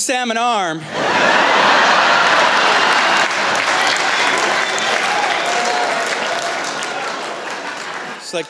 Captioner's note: laughter